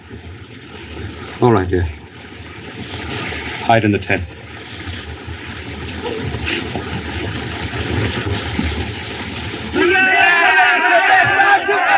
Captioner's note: shouting